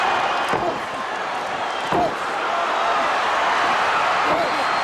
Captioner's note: Paul grunting